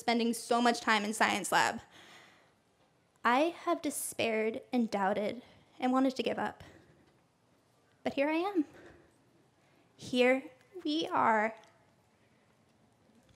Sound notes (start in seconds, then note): none